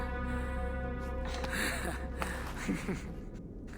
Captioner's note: laughs